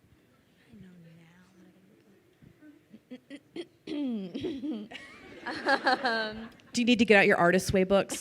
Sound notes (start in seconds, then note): 4.8 crowd laughing